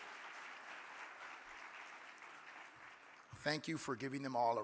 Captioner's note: audience applauding